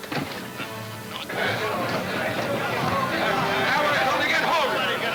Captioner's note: men yelling simultaneously